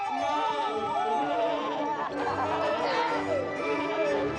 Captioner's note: shouting, laughing